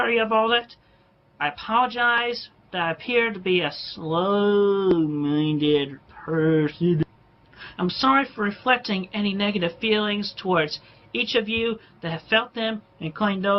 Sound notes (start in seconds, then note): 3.6 puts on a “slow” voice and sways with each word